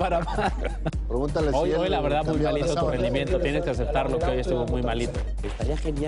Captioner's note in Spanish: risas